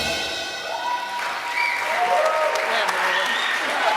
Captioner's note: applause